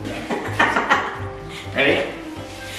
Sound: laughs

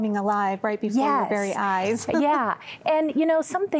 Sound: giggling

